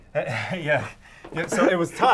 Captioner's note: laughing